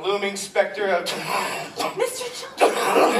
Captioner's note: coughing fit